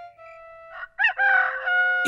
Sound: rooster crowing

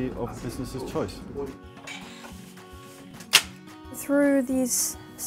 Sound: letter box opening and disks crash to the floor

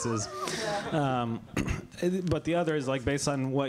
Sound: laughter

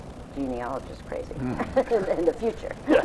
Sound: both laugh

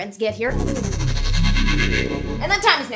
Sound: SFX: Time travel noise

